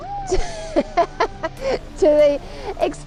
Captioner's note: cheering